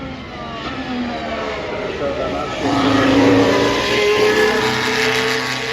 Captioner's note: car Sounds